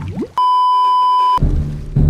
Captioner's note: beeeeeep